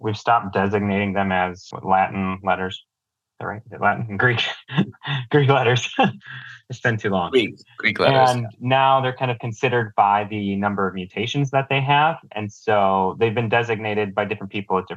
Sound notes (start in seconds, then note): 4.4 laughs